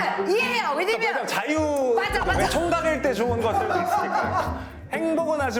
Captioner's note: rambling